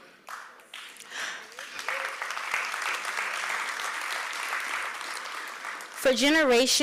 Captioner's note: applause